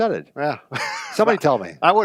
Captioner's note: laughing